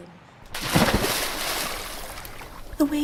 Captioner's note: splash